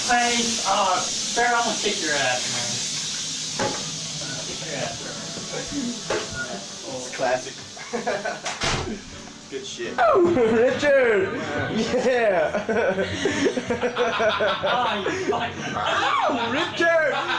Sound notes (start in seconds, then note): 7.7 chuckles; 11.7 soldiers laughing